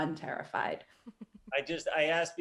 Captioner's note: chuckling